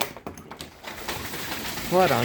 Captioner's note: door unlocks; very loud hail